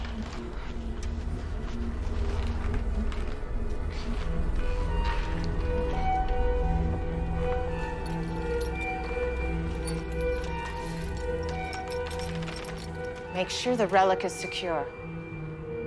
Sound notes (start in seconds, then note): 1.9 quiet tense music; 10.5 chain rattling